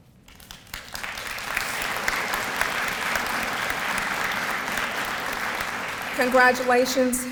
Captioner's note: audience applause